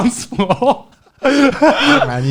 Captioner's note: all laughing